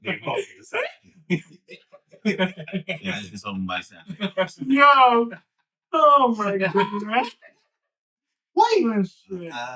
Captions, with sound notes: They both said. (Laughing) I think someone's by the side. No. Oh my God. What? Oh shit.